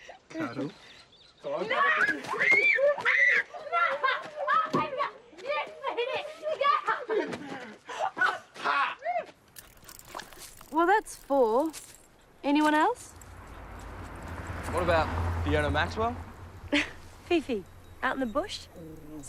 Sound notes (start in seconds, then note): 1.7 screams; 16.7 laughs